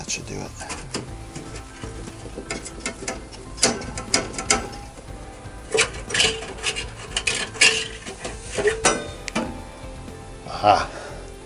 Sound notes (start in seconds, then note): 4.2 metal clanking